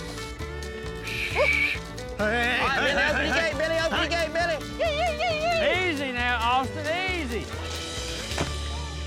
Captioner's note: shouting; thud, laughing